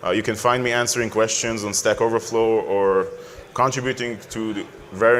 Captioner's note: none